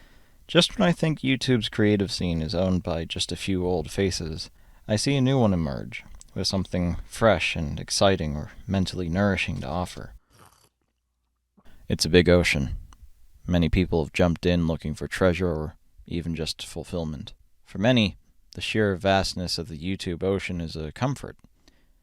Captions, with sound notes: Just when I think YouTube's creative scene is owned by just a few old faces, I see a new one emerge with something fresh and exciting or mentally nourishing to offer. [Slurp] It's a big ocean. Many people have jumped in looking for treasure or even just fulfillment. For many, the sheer vastness of the YouTube ocean is a comfort.